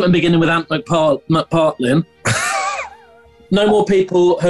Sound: sniggering

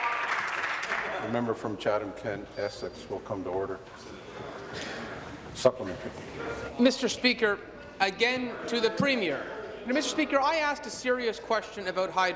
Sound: applause

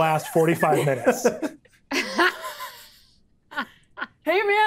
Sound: players laughing

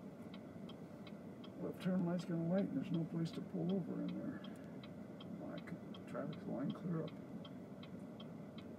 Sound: man talking

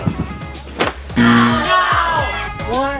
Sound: buzzer

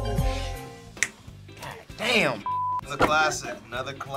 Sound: finger snaps; beep

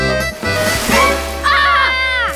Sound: screaming

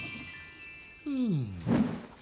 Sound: all snore

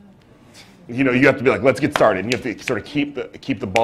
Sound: pause; with authority

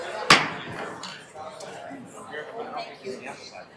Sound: gavel clunking

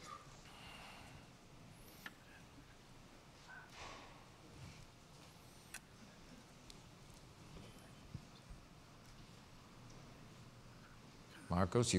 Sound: pause

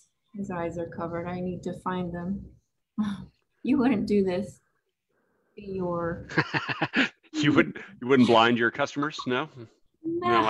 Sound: laughs

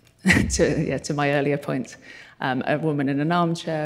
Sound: chuckles

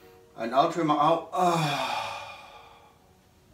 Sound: exhales

